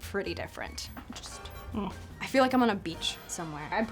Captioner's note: moans